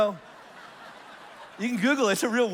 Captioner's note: congregation laughs